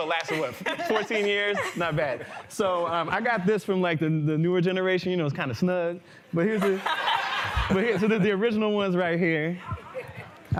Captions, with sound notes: Well anyway, so it lasted, what, 14 years? Not bad. So I got this from like the newer generation. It's kind of snug. But here's-- [laughter] The original ones are right here.